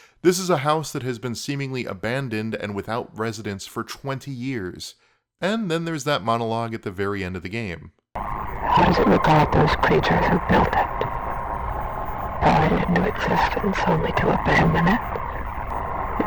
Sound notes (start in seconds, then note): 8.8 female voice